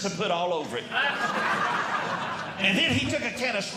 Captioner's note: audience Laughing